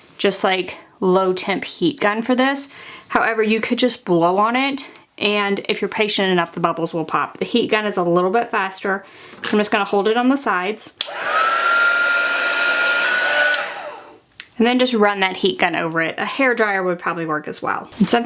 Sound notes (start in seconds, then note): 11.0 heat gun whirring